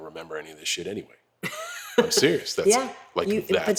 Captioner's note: laugh